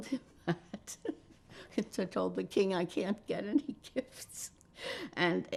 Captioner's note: laughing